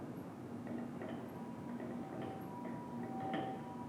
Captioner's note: siren